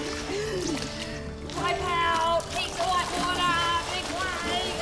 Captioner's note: water splashes